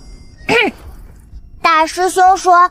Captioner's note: cough